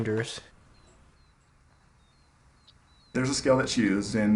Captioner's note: birds chirping